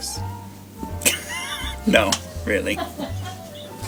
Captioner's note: laughs